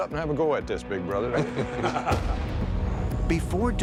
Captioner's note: laughter